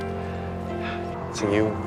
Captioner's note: Max sighs